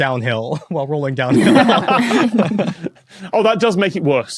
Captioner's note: group laughing